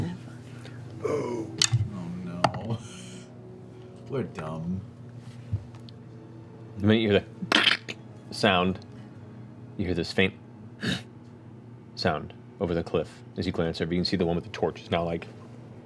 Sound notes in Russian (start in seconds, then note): 7.2 треск; 11.8 кряхтение